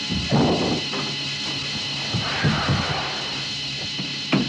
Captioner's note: tires skidding on gravel; truck door slams